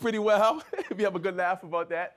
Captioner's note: laughs